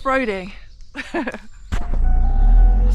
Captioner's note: chuckle